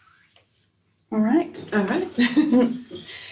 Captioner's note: laughs